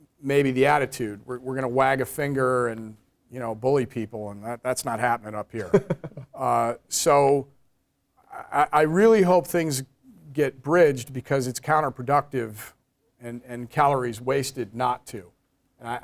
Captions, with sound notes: maybe the attitude, we're going to wag a finger and bully people. That's not happening up here. >> [LAUGH] >> So I really hope things get bridged because it's counter productive, and calories wasted not to.